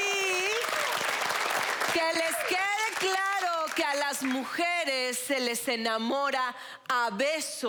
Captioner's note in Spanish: Aplausos